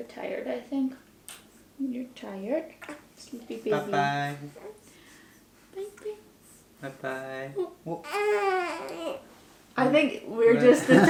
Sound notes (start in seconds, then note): 9.8 baby crying